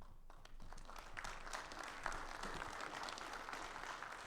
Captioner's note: audience clapping